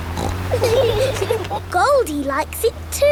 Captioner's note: laughing